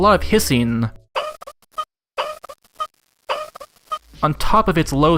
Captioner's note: turning valve while it plays a hissy compressed sound effect